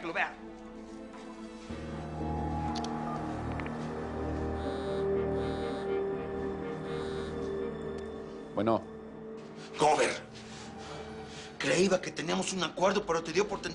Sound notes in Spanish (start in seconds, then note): 6.8 Vibra el celular